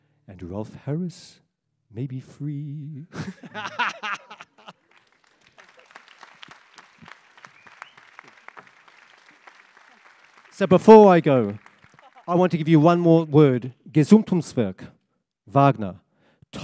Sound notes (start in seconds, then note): 3.1 laughter; 4.0 applause